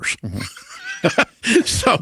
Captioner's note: both chuckles